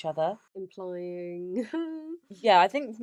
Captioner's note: laughs